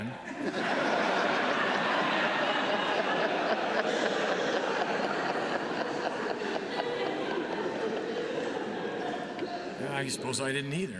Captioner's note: laughter